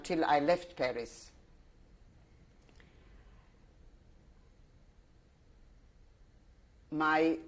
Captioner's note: pauses for 6 seconds